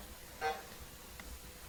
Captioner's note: timer buzzing